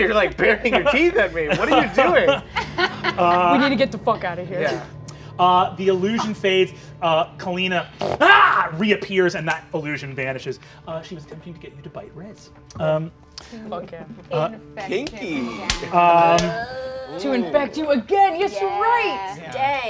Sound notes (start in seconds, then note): 7.9 snarls